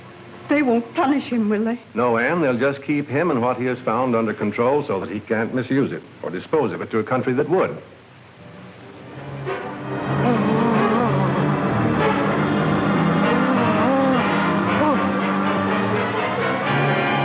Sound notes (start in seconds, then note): 9.8 groaning; 13.1 tense classical music